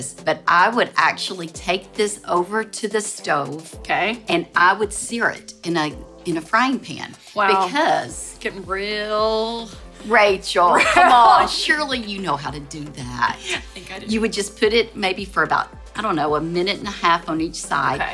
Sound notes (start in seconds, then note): 10.7 laughs